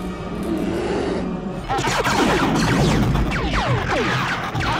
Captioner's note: blaster shots